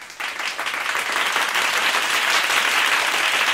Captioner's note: clap